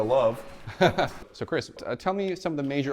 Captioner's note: laughs